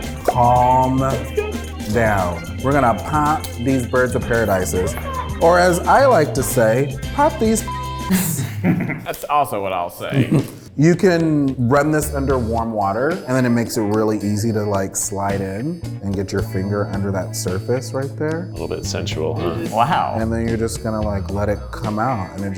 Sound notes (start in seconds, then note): 0.2 laughs; 7.4 beep